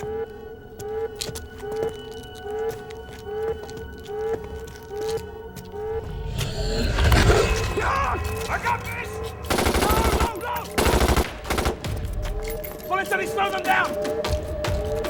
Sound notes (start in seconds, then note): 5.8 vampire growls; 9.4 gunshots blasting